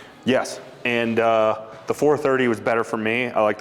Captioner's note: none